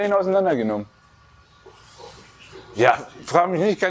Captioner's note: huffs